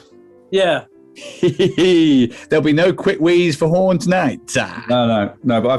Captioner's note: chortling